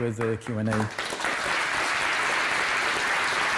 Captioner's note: applause